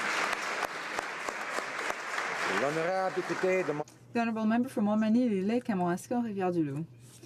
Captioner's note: applause